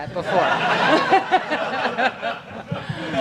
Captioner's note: audience laughter